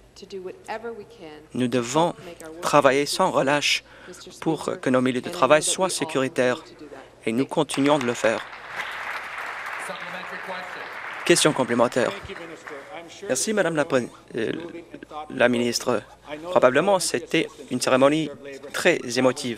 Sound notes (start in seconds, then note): 11.2 applause